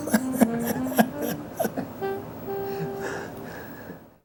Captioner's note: laughs